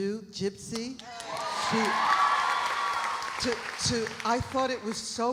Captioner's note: audience cheering; audience applauding